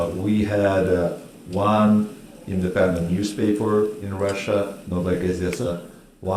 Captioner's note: speaking Russian